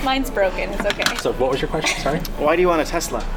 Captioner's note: laughs